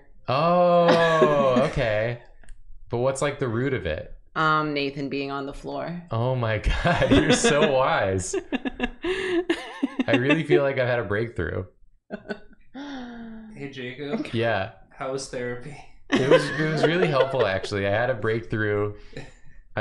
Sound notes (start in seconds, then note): 8.9 chuckles, gasping for air; 16.1 laughs; 18.8 snickers